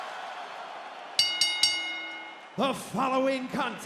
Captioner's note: bell rings